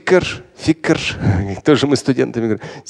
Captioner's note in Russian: Смеется